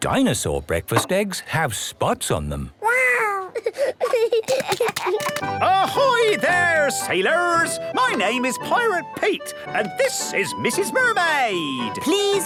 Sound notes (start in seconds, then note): 3.3 giggling